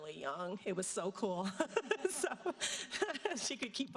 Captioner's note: laughing